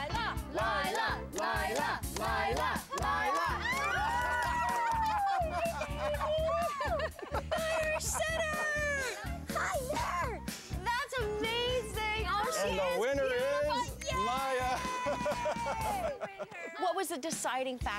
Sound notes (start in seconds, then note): 3.1 mixed cheers, laughter